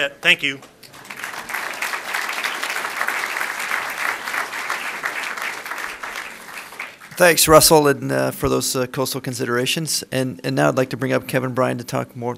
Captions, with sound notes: THANK YOU. [ APPLAUSE ] >> THANKS RUSSELL FOR THOSE COASTAL CONSIDERATIONS AND NOW I'D LIKE TO BRING UP KEVIN BRYAN TO TALK MORE,